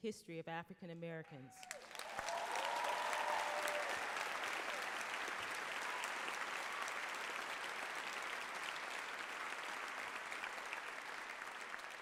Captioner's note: applause, cheers